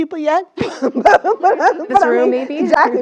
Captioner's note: laugh